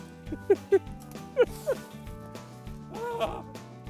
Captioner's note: laughter